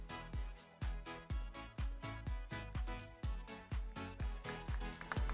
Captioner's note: upbeat music continues; crowd applauding